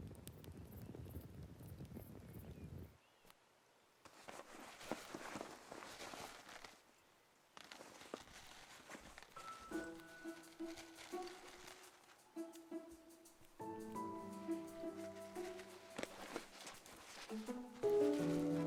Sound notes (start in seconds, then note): 4.1 bag rustling; 9.3 gentle orchestral music